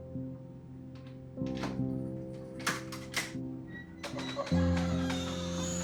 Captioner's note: door creaks open